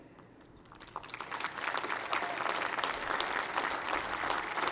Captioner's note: applause